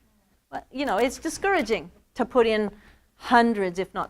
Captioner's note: none